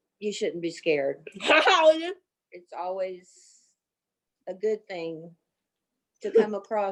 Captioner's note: laughter